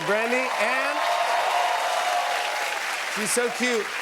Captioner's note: cheers and applause